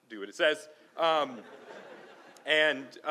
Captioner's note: laughing